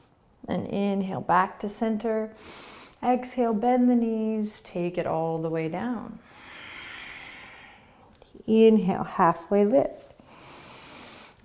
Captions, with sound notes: Then inhale, back to center. Exhale, bend the knees. Take it all the way down. (exhaling) Inhale, halfway lift. (inhaling)